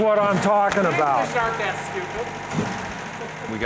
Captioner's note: murmurs